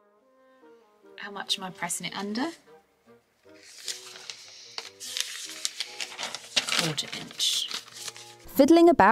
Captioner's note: paper rustles